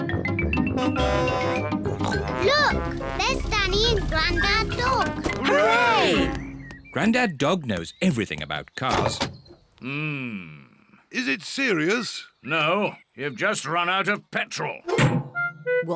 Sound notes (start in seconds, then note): 0.7 horn blares; 1.9 snorts